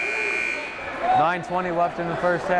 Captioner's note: timer buzzes